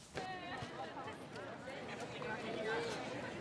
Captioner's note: indistinct chatter